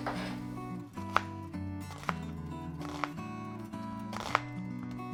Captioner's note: bowl rattling; knife clacking gently